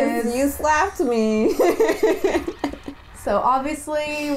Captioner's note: laughter